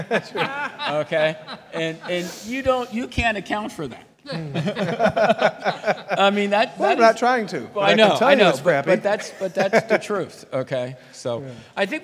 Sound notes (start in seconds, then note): 0.0 laughs; 4.3 laughs; 4.4 audience laughs